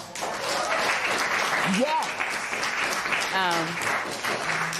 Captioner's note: applause